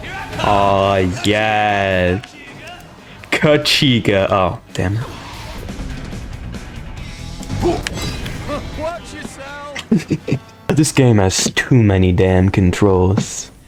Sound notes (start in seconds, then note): 9.6 laughs to myself